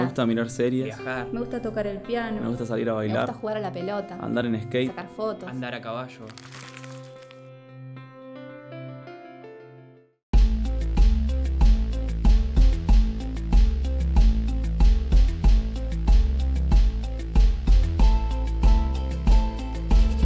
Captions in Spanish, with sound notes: -Mirar series, viajar. -Tocar el piano. -Bailar. -Jugar a la pelota. -Andar en skate. -Sacar fotos. -Cabalgar. (crujido de papel) (música profunda) (música animada)